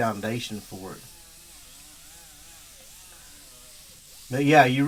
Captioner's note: buzzing